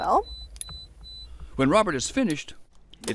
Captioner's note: beeping